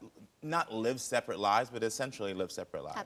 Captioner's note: none